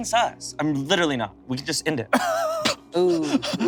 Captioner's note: laughs